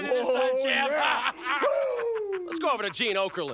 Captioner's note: Curt laughs